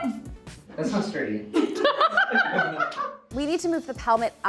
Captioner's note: everyone laughing